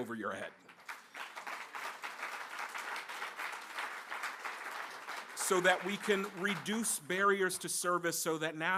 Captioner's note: applause